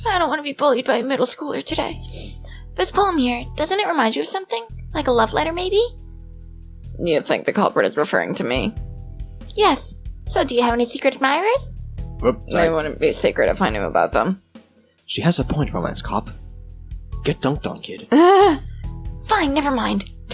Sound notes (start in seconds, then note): 18.1 laughs